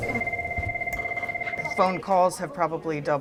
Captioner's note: phone ringing